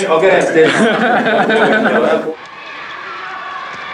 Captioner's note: laughter